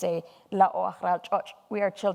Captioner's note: speaking in foreign language